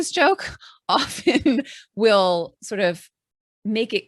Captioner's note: chuckling